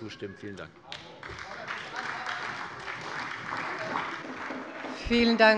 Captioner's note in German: Beifall bei der CDU und dem BÜNDNIS 90/DIE GRÜNEN